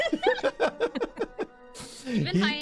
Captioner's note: laughter